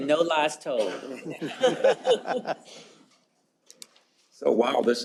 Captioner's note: laughter